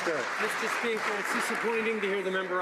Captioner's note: some Applause